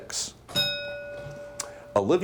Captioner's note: bell dings